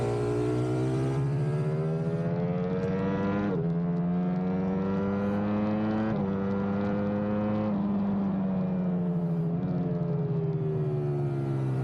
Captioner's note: engine roaring